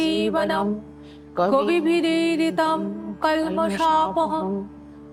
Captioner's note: chanting